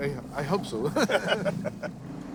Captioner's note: both chuckling